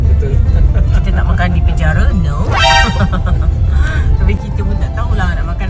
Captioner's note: laugh